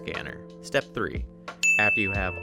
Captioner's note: dinging